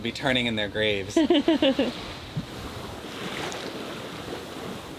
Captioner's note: chuckles